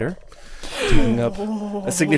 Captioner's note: gasps